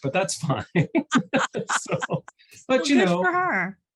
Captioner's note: laughter